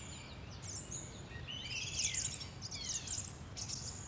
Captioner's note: birds chirping